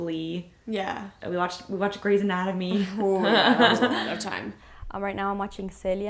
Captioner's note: laughing